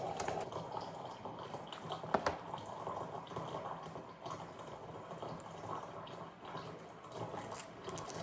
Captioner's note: that's the sound of hot water filling up in the tumbler